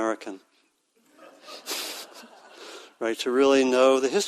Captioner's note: audience laughing